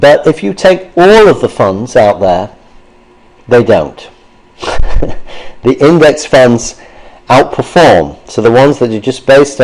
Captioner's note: laughter